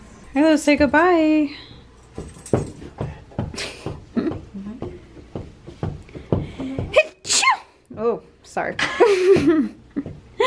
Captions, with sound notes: Harlow, say goodbye *sneezes* Sorry *laughs*